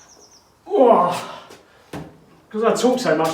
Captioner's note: grunts